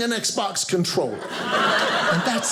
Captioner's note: audience laughing